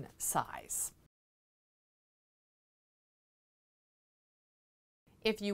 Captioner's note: no Sound Present